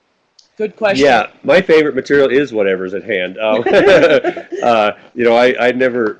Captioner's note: laughs